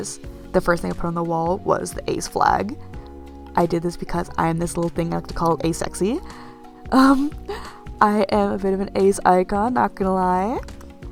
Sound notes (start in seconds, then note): 6.9 giggles